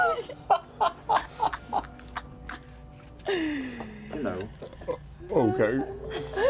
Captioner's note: laughter